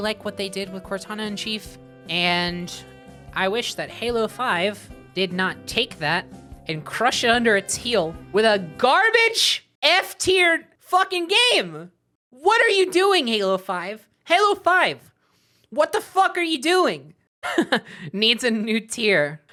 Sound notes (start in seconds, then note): 8.8 yelling; 17.4 laughing